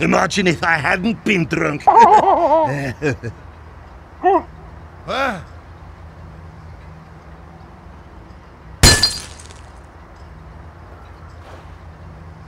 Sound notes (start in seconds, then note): 1.8 one last Scottish laugh for the road; 1.8 Moderate Pyro Laughter; 8.9 sound of irresponsible litter disposal